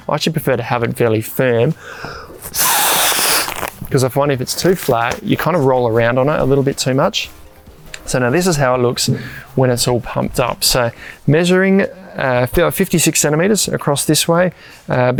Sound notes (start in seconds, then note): 1.8 blows air